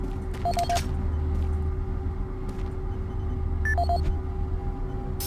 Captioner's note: beeping